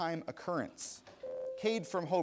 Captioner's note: bell rings